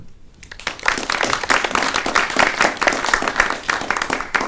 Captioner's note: attendees clapping